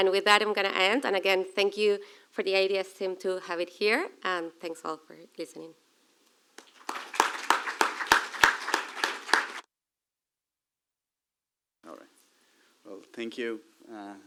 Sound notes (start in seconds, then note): 8.8 applause